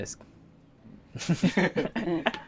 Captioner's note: chuckles